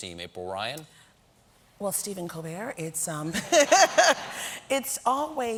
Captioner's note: laughter